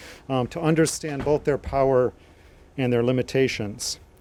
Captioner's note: door slamming